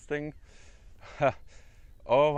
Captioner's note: laugh